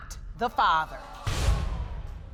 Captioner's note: audience gasps